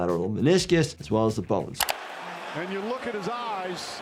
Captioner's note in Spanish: clics del ratón